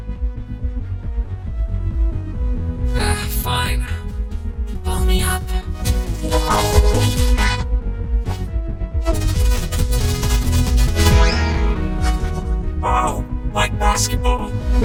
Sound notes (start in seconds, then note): 5.8 rubbery squeaking